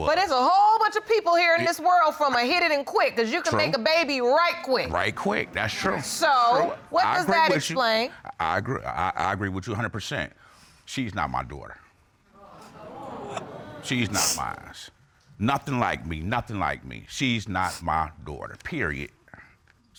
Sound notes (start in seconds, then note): 12.4 audience exclaims; 13.6 sniffling